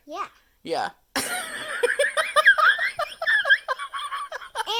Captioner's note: laughs